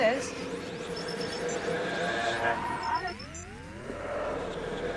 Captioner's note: static